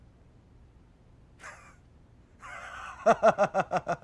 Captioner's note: cough